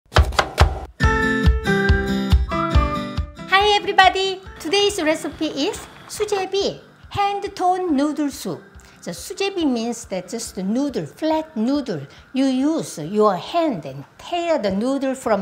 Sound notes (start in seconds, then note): 0.1 knife chopping; 0.2 upbeat music